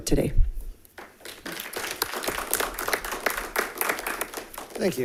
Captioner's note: all clapping